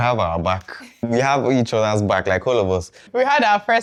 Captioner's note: laughs